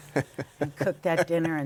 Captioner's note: laughter